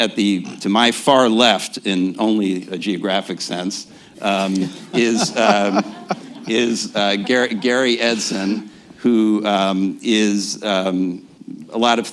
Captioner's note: laughter